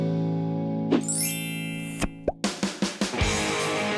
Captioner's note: chimes sound; popping sound; bluesy rock music